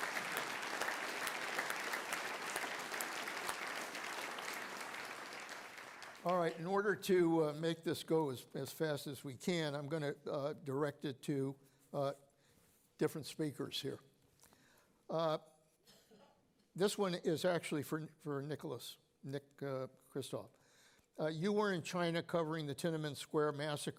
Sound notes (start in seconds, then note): 4.7 applause